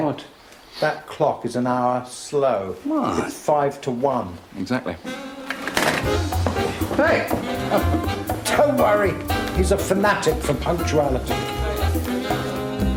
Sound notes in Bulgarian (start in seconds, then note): 7.1 Смее се